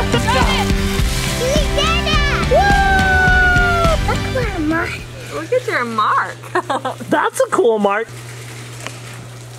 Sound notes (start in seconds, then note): 2.5 screaming; 6.6 laughs